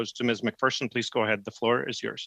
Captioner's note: speaking French